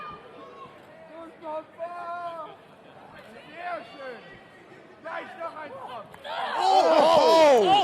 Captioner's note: crowd chatter